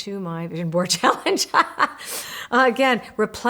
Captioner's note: laughs